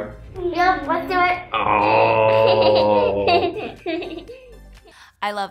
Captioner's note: kids laughing